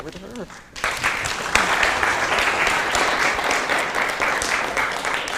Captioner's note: applause